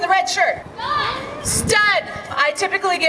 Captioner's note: yells